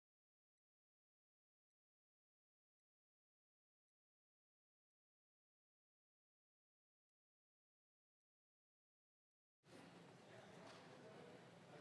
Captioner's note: moment of Silence